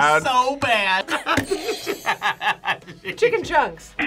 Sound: buzzer rings; both laugh

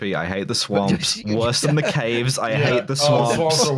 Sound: laughs

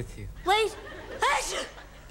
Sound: sneezing

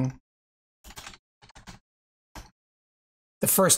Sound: keyboard clicking

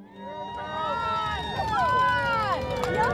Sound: cheering

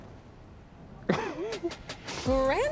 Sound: laughs

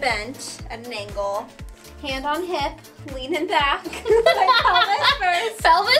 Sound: laughing

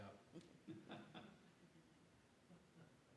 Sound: laughs

